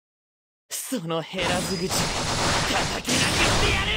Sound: speaking Japanese

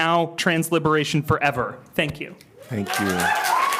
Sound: applause

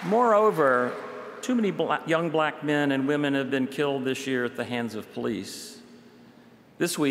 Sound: applause

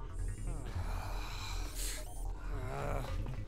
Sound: frustrated sighs

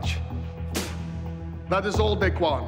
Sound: spits

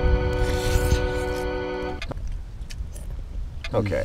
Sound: melancholy music; slurping

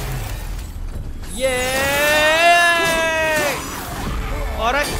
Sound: extremely unnecessary way cry

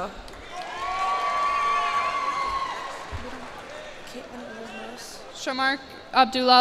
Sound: cheers and applause

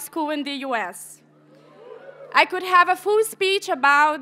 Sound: audience members cheer

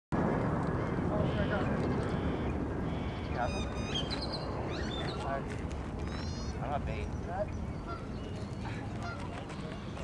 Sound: birds chirping

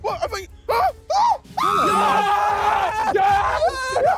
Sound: screaming; group cheering

